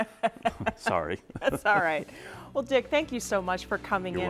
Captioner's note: laughing